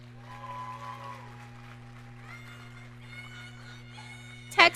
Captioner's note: audience cheering